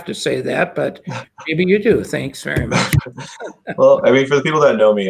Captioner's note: chuckles